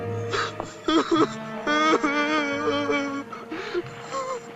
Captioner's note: sobbing